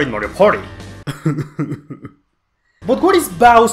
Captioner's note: defeated sobs